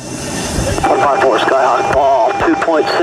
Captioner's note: male Speaker Over Radio